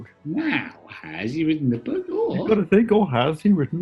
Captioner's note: raps